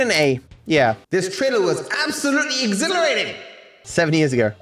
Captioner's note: voice echoing